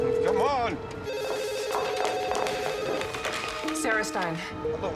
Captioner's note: phone ringing